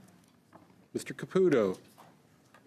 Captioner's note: speaking French